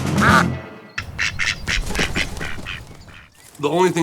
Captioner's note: ducks quacking; duck quacks